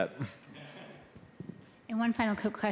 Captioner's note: scattered chuckling